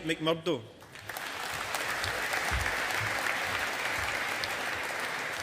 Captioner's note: audience applauding